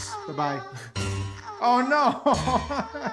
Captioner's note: chuckles